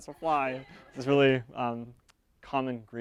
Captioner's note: audience members laugh